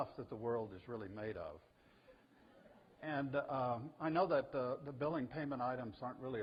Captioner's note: audience: Laughter